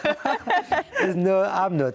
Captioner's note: laugh